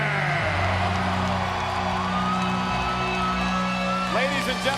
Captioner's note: audience cheering